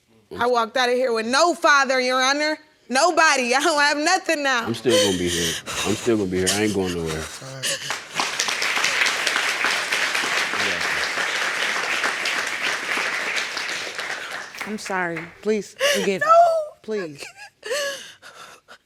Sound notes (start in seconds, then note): 4.6 crying; 7.3 audience applauding; 15.6 wailing